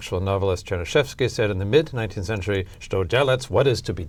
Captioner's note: russian